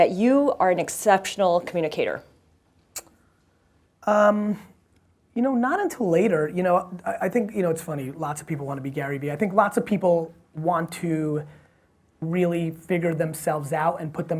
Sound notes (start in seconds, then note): none